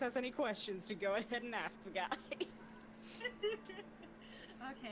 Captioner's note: laughing